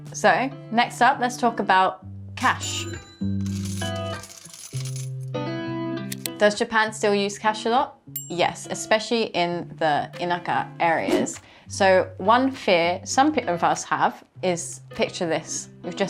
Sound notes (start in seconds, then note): 2.4 cash register ka-ching; 2.4 coins clinking; 5.2 upbeat music